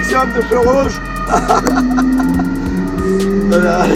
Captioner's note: laughter